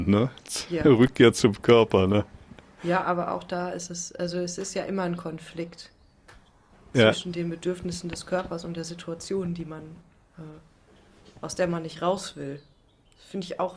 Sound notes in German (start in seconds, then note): none